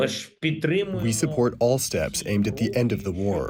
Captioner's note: through translator